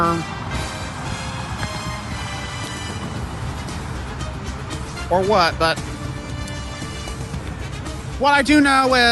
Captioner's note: stammers